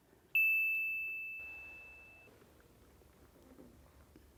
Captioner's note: phone pings